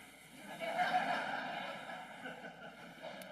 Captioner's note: laughing